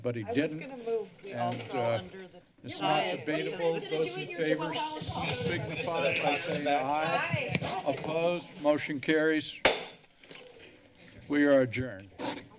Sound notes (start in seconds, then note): 9.7 gavel tapped against the lectern